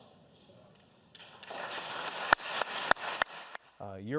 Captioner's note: applause